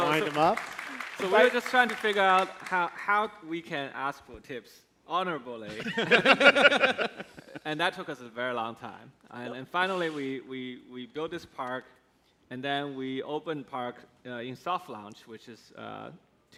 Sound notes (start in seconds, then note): 3.7 laughs